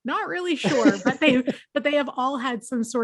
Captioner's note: laughs